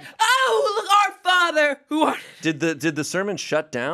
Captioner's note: laughs